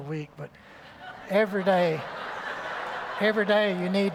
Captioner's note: laughter